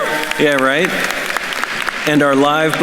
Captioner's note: audience applauding